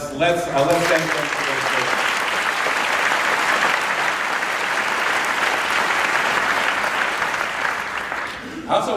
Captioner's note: applause